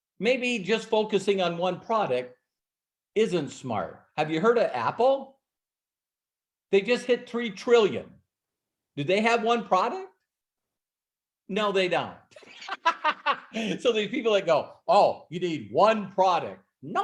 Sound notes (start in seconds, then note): 12.4 laughs